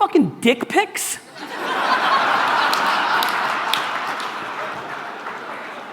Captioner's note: audience laughter